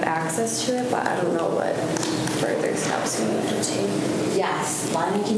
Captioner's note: faintly speaking